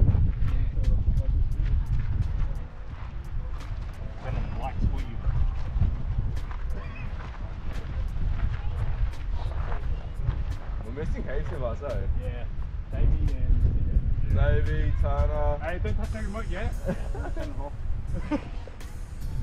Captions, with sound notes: Turn on lights for you bro *Laughs* We're missing heaps of us aye Yeah Davey and Davey, Tana Aye don't touch the remote yeah *Laughs*